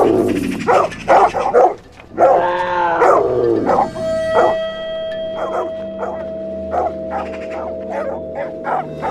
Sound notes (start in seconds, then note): 3.1 the growls of dogs and snow leopard; 6.1 suspenseful music